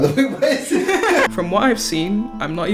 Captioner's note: laughter